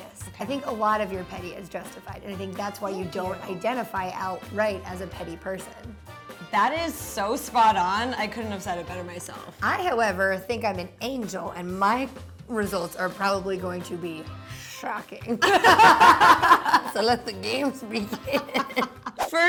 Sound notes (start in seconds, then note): 15.4 both laughing